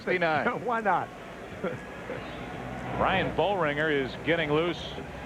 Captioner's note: laughter